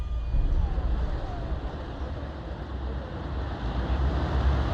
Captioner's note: road ambiance